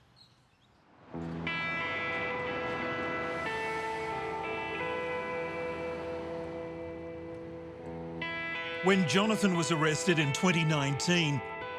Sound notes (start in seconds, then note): 0.0 birds chirping; 1.5 car engines revving; 4.1 gentle music